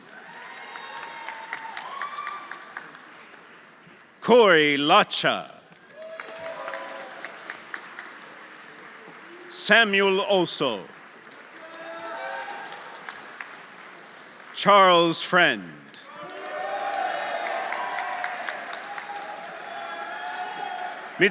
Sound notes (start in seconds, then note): 0.0 audience applauding; 0.1 audience cheering; 5.7 audience applauding; 5.9 audience cheering; 10.4 audience applauding; 11.6 audience cheering; 16.0 audience applauding; 16.1 audience cheering